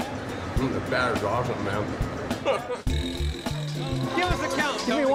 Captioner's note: laughs